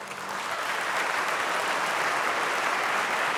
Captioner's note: applause